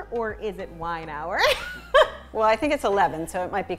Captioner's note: laughing